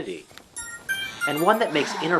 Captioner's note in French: sonnerie de téléphone